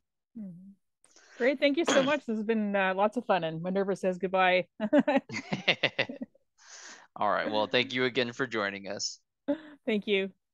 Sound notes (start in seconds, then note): 6.9 both laughing